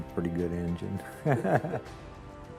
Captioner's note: chuckling